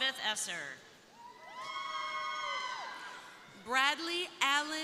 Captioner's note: crowd cheering